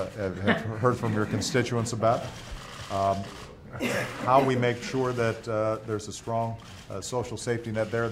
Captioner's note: laughter